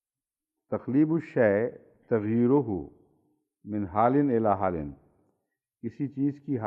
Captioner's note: Arabic